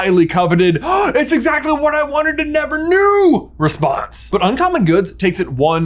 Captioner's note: gaaaaasp